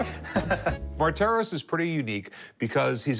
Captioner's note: laughing